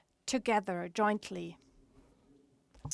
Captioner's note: speaks in English